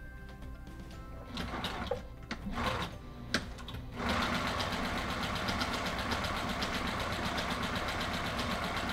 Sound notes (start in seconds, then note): 1.4 sewing machine whirring